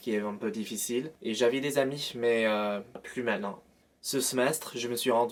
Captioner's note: French